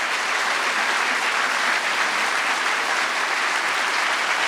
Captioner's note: applause